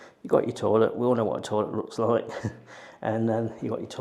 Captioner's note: chuckles